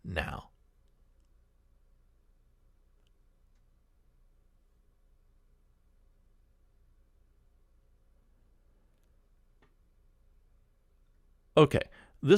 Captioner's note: pause